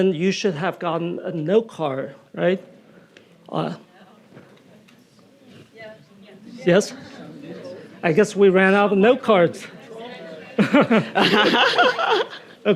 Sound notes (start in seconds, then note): 9.8 audience chattering; 10.5 Nadine laughing; 10.6 laughing